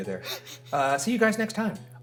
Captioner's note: Shane chuckling